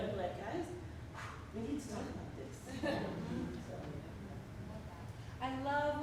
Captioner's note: whew